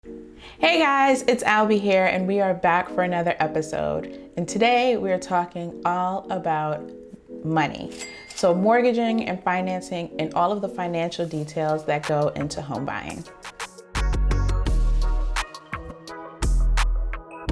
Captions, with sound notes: (soft music) - Hey guys, it's Albie here and we are back for another episode and today we're talking all about money. (bell rings) So mortgaging and financing and all of the financial details that go into home buying. (soft music)